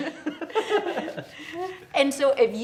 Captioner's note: laughs